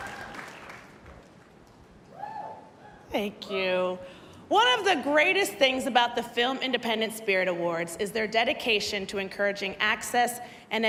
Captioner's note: cheers and applause